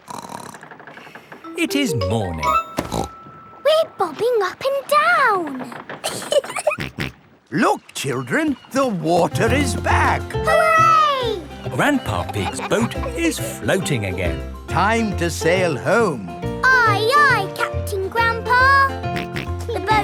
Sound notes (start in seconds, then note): 0.0 snorts; 2.9 snorts; 6.0 giggling; 6.3 snorts